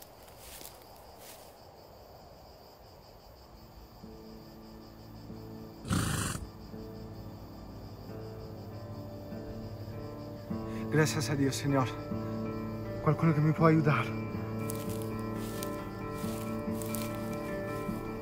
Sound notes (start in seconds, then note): 5.8 horse snorts